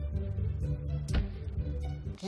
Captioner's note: thud!